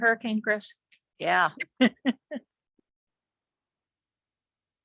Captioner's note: laughs